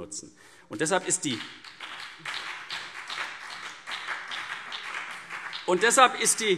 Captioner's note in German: Beifall CDU und BÜNDNIS 90/DIE GRÜNEN